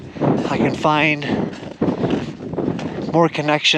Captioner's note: wind blowing